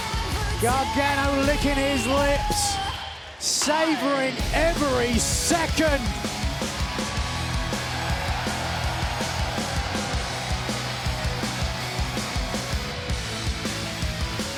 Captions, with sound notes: Gargano licking his lips. Savoring every second. (upbeat rock music) (crowd cheers)